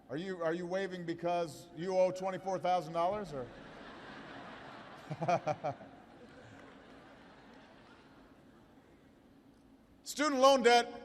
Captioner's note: laughter